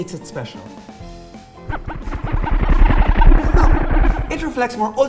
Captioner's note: MindBlower noises